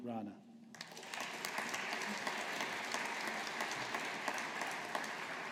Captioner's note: audience applauding